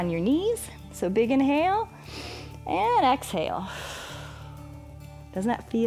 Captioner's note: inhales; exhales